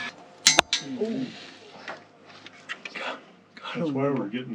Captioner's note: rocks banging